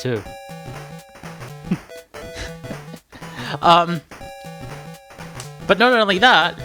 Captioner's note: laughing at own joke